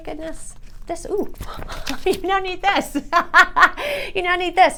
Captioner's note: laughing